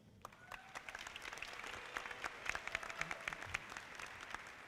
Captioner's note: audience clapping